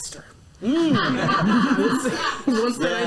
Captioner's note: laughter